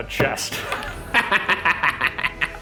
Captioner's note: laughs